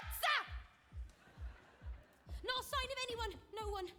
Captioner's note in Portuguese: audience laughing